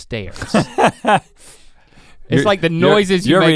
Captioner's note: Rhett laughs